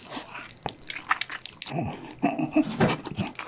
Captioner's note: stumbling